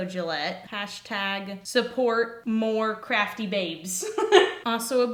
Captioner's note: laugh